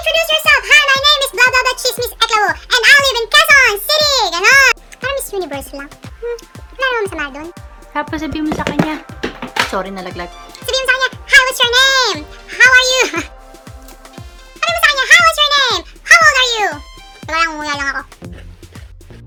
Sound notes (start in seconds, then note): 8.5 something fell